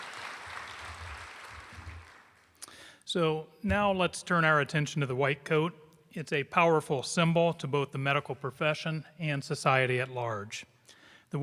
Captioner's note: applause